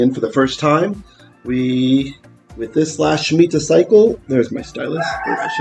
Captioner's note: Hebrew